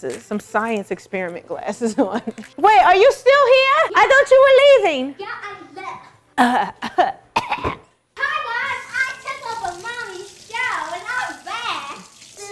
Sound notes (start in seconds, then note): 1.9 laughs; 7.3 coughs